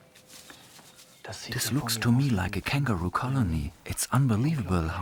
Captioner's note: in German